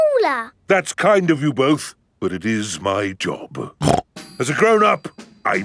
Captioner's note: snorts